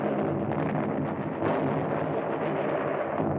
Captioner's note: explosion